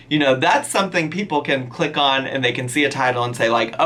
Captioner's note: none